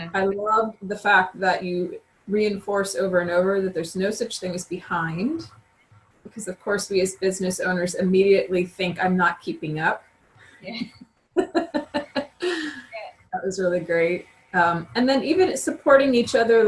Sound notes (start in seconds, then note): 11.4 laughs